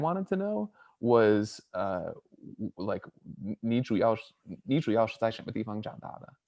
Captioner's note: speaks in Mandarin